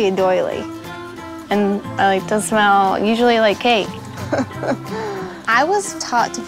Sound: laughs

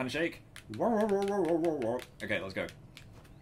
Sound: dog-like noises

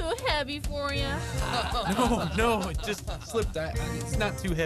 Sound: laughter

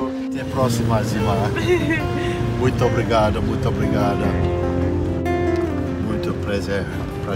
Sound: Mooji speaks in Portuguese

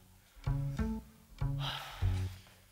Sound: sighs

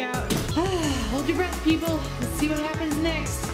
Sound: sighs

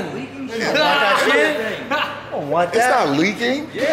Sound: laughing

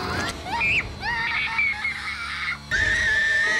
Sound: innocent screams

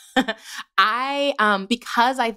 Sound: laughter

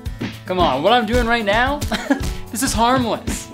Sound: chuckles

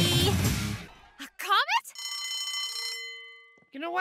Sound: bell ringing

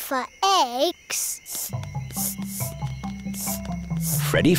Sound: sniffing

